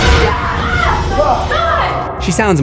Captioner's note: screams